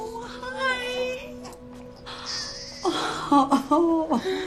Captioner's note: gasping